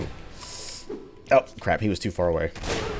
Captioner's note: whiff